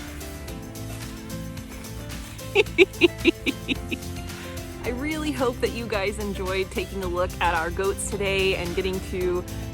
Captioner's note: laugh